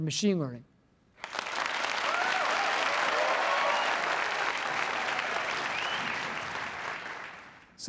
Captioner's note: applause